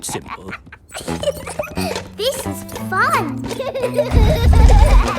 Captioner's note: giggles